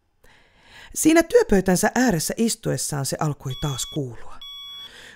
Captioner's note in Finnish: piippaus